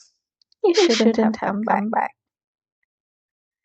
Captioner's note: echos